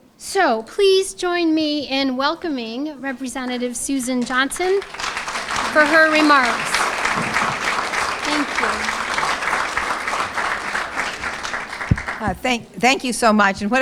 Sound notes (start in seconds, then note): 9.5 applause